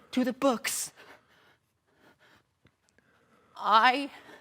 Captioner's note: heavy breathing